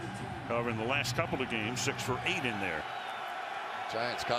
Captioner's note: cheering